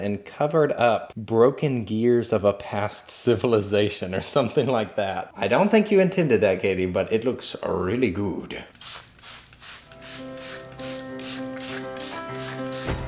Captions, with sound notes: and covered up broken gears of a past civilization or something like that. I don't think you intended that Katie, but it looks really good. (spraying) (upbeat music)